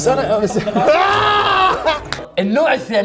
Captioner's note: laughs